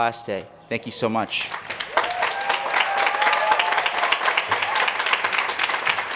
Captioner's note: applause